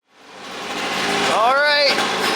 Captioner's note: motor revving